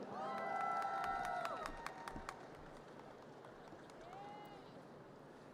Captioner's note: audience cheers and applause